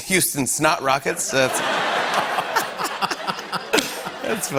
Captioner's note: laughter